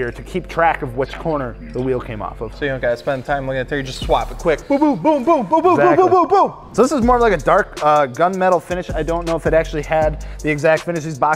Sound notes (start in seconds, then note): 5.0 booming